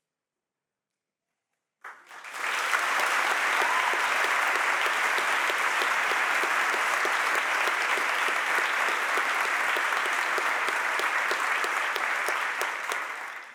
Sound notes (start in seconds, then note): 2.2 audience applauds and cheers